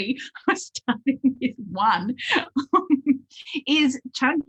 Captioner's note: laughs